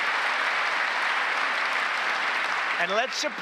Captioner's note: applause